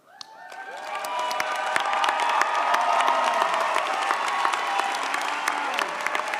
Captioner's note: audience cheers; audience applauds